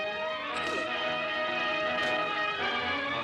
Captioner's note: grunting